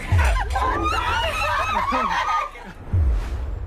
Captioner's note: excited screams